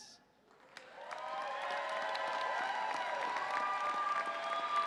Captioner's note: audience cheering